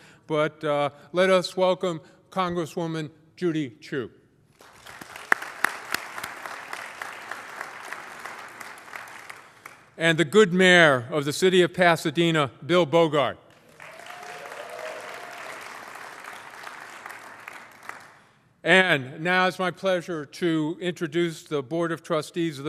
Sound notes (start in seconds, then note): 4.5 applause; 16.1 applause